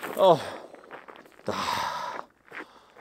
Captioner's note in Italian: sospira